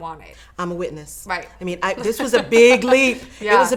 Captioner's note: laughing